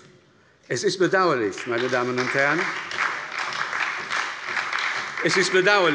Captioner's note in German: Beifall bei der SPD